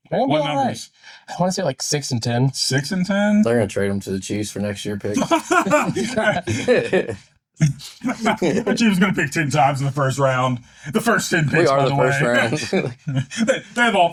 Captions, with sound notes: Giants, they have two top 10 picks this year. Ew. I wanna say like six and 10. Six and 10? I'm gonna trade them to the Chiefs for next year picks. (laughing) The Chiefs are gonna pick 10 times in the first round.